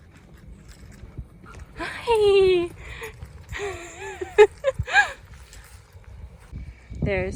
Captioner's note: laughing